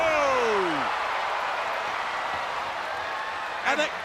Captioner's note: crowd cheering